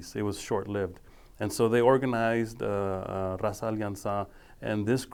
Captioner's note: speaking foreign language